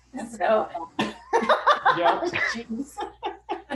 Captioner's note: laughing